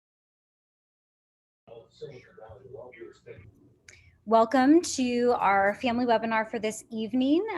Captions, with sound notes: [ Background Conversation ] >> Welcome to our family webinar for this evening.